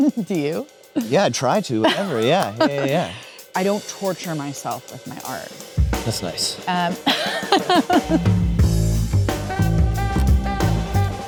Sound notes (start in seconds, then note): 1.0 Kate laughing; 7.0 Kate laughing; 8.5 jazzy music